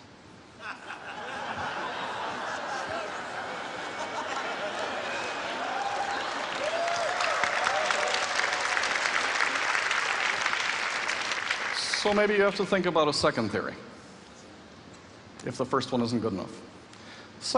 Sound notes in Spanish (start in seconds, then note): 0.6 Risas; 6.8 Aplausos